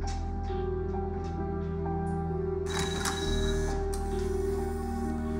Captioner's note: none